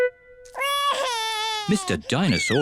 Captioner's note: wails